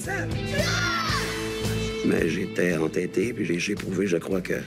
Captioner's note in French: cri en choeur